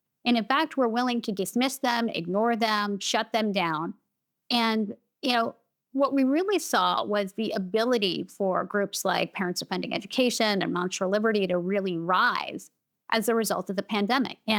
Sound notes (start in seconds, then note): none